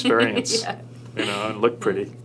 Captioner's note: laughing